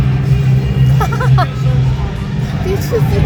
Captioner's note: laughing